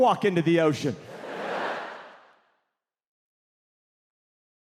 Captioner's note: audience laughing